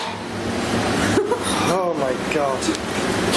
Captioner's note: laughing